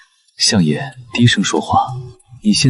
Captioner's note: speaking softly